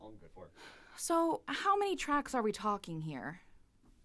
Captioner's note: heavy sigh